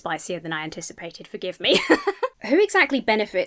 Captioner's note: laughs